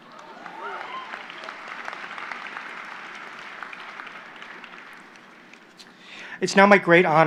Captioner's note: applause